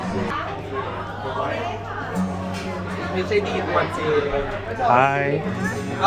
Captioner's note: laughing and waving hands